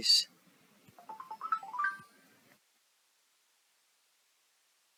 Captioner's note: phone dings